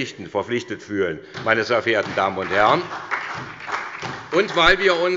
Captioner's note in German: Beifall bei der SPD